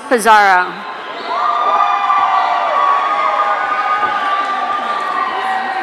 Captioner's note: audience cheering